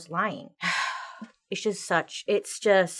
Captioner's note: sighs